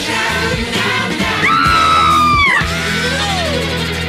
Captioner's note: Sweet Polly Purebred Screams